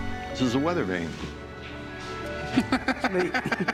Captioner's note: laughter